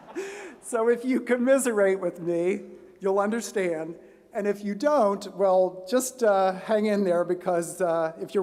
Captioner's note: laughter